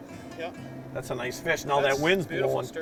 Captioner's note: voiceover